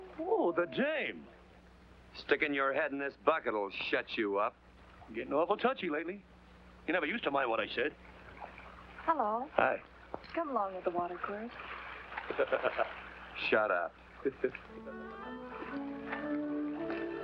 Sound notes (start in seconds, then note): 12.3 laughs